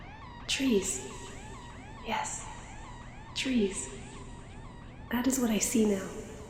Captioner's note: Ailia's echoed voice